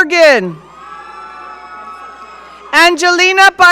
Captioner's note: audience cheering